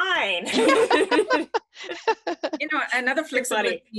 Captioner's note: laughs